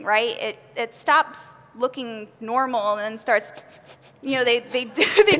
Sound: rapid inhaling

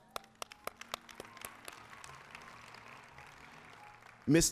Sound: applause

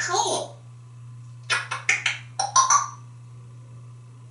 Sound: kissing and clucking sound

